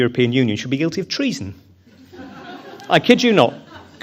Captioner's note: audience chuckles